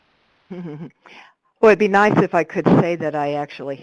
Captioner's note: laughs